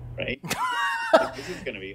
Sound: laughs

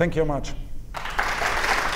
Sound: applause

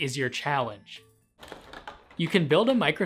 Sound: plastic rustling

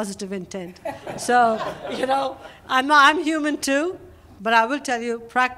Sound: laughter

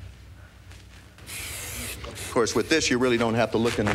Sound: spraying

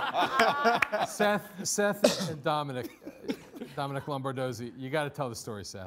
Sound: coughs

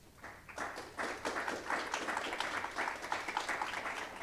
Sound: audience applauding

